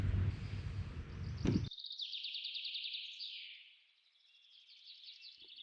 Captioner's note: birds chirping